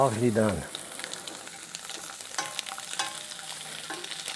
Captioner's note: pan sizzling